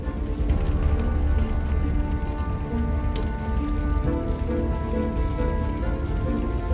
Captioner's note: dramatic music; fire crackling